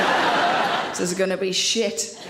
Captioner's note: audience laughs